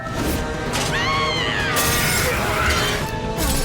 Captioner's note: screaming